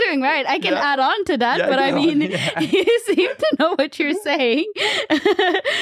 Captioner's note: laughs